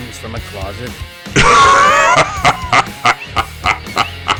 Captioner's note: enormous wheezing laugh